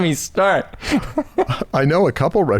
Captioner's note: chuckles